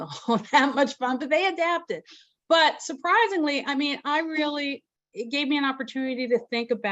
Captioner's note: chuckles